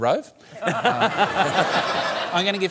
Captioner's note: laughs